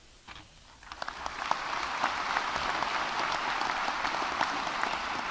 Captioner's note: audience applauding